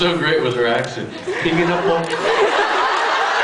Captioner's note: laughs